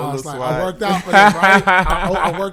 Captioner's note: laughing